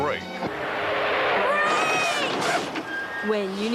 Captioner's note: brakes squealing